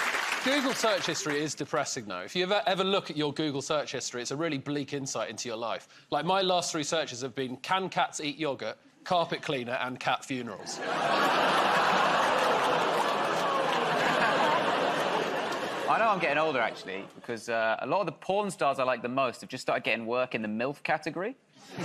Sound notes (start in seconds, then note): 0.0 cheers and applause; 10.6 laughter; 12.7 audience groans